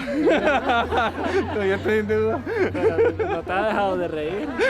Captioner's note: people laughing